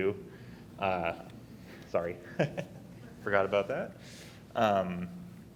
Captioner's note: chuckles